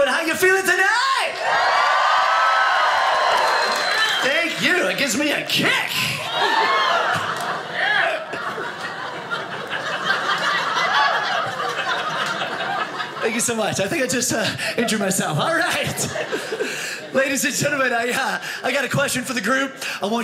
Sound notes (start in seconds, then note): 1.0 audience cheers; 8.7 audience laughing